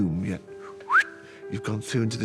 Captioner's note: mitchell whistles